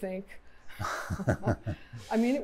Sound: laughter

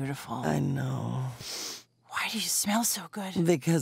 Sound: sniffing

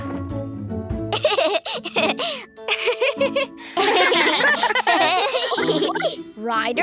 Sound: giggling

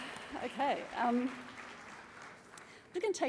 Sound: applause

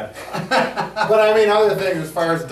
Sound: both laughing

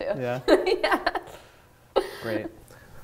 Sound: laughing

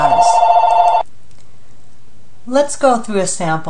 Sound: phone rings, don't answer!

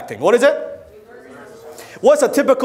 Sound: crowd

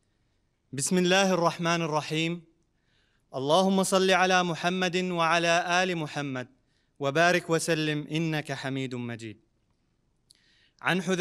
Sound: Arabic

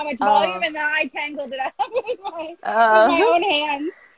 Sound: laughs

